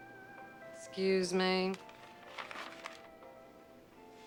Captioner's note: page flipping